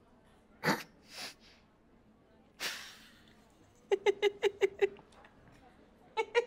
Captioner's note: laughs